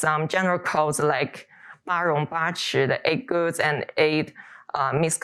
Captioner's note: speaks Chinese